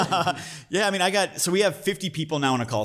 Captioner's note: laughs